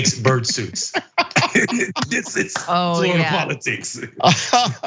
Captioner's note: laugh